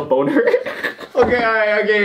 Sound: giggles

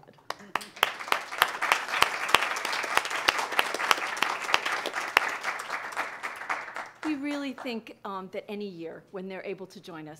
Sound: applause

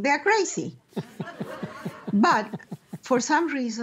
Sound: laughter

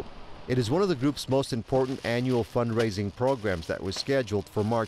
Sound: plastic crinkling

